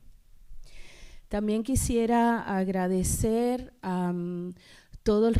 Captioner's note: speaking spanish